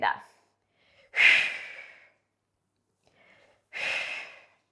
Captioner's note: breathing sharply